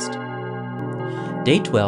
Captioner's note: sound of bells